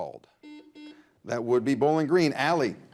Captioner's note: buzzer buzzes